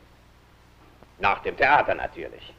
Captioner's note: foreign language